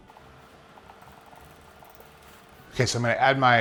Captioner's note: stirrer whirring